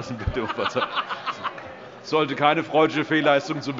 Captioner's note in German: Große Heiterkeit